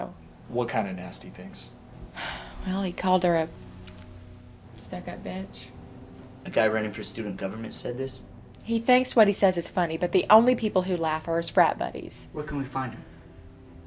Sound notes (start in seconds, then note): 2.1 sighs